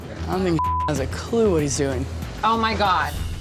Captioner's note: beep